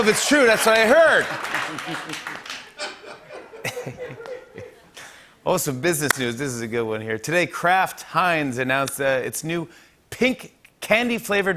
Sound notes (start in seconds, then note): 1.2 laughter; 2.6 chuckles